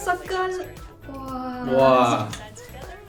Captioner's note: sounds of admiration